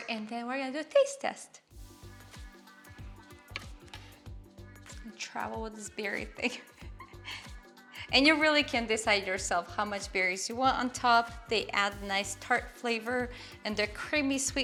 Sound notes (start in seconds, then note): 2.6 gentle music; 6.1 giggling